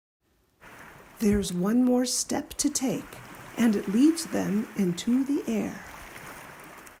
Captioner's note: waves